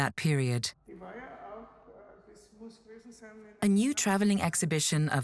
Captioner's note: woman speaks in foreign language